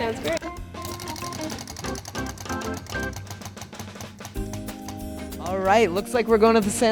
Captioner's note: upbeat music continues; wheel clicking